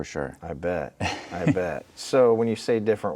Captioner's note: laughing